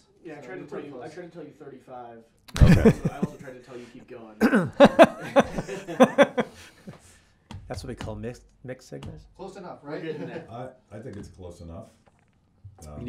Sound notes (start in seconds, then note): 2.5 laughs; 4.4 laughing